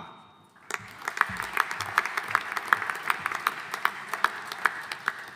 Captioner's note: audience applauding